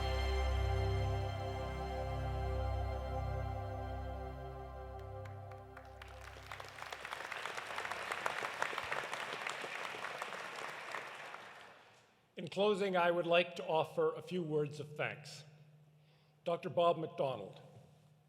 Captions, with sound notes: (dramatic music continues) (audience applauding) - In closing, I would like to offer a few words of thanks. Dr. Bob McDonald,